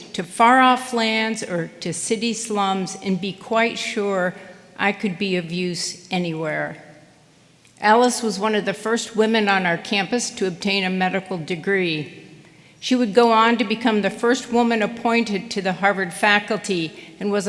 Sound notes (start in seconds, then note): none